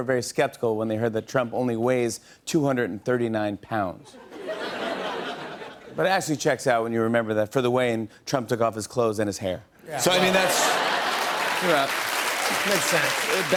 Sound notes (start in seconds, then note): 4.1 laughter; 10.0 laughter; 10.0 applause